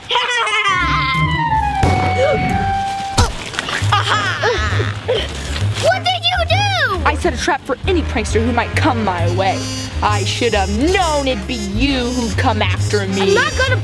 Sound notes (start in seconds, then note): 0.0 evil laugh; 1.1 whooshing